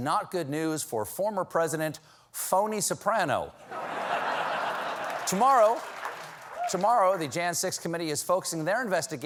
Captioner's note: laughter